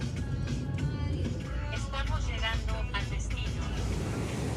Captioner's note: virtual voice